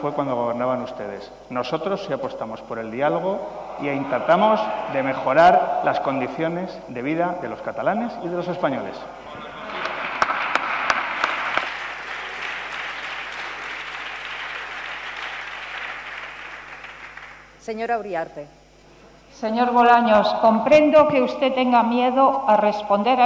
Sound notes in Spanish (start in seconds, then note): 12.4 Aplausos